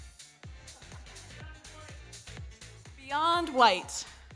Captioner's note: audience laughs